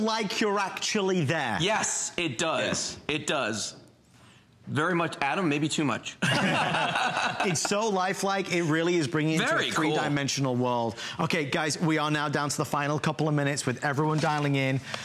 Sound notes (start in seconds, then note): 8.7 laughter